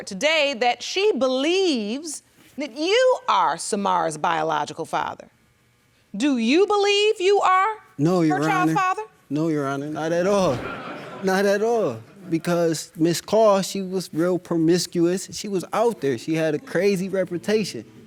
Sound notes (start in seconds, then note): 10.3 audience laughs